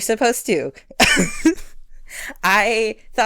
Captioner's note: laughs